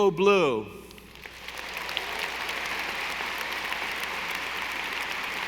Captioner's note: audience applauding